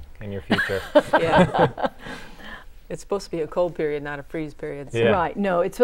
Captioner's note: laughing